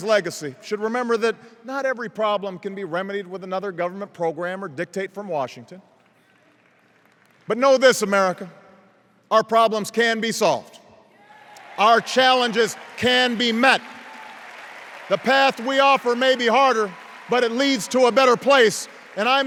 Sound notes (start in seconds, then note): 11.3 cheers